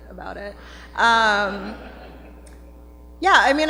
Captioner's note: laughter